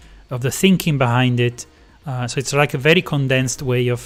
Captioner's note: none